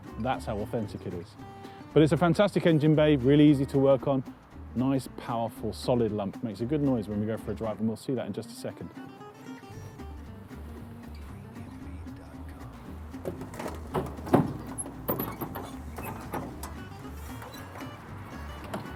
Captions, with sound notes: That's how authentic it is. But, it's a fantastic engine bay, really easy to work on, nice powerful, solid lump, makes a good when we go for a drive and we'll see that in just a second. (creaking and metal thunking gently)